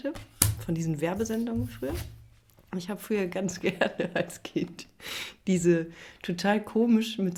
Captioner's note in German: gelächter